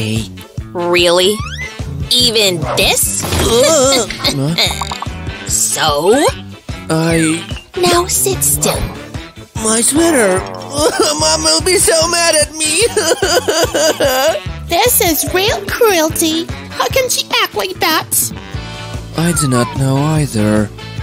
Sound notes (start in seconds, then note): 10.4 sobs